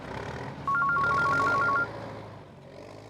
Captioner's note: mobile phone rings